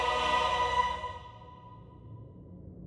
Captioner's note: bell ringing